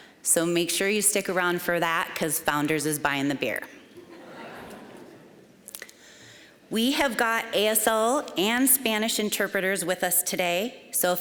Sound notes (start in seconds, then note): 3.9 audience laughing